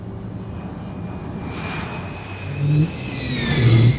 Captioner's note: fighter jet engine roaring